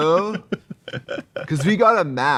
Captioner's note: Katya laughing